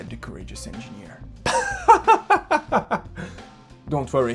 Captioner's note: laughs